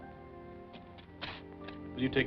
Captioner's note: tearing paper from pad